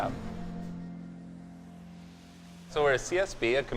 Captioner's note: whooshing